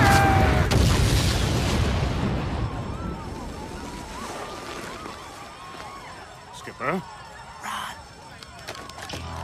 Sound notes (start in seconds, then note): 0.0 yells; 0.0 boom; 2.5 people panicking and screaming